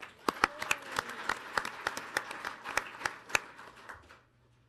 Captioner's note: audience applauding